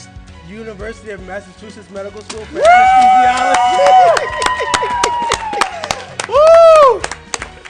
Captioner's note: cheering